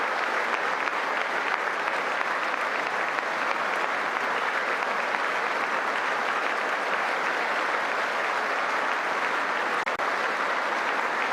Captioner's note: applause